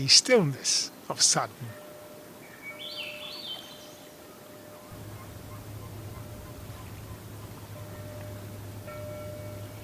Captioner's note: gentle ocean sounds